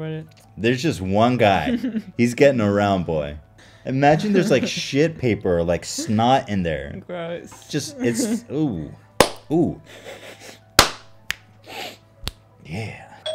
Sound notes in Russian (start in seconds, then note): 9.5 принюхивается; 13.1 звонок в дверь